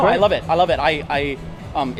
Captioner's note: stutters